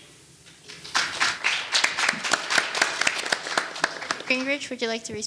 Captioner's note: audience applauding